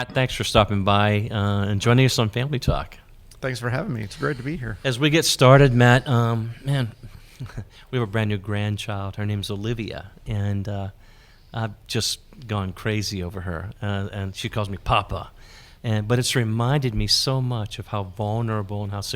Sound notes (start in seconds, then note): 6.6 chuckles